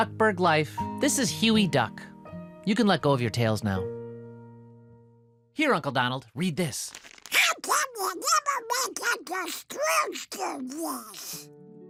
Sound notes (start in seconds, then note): 6.8 papers rustling